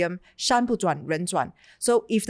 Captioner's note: speaks in Chinese